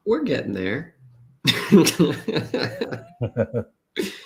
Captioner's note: laughs